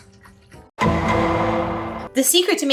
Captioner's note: gavel bangs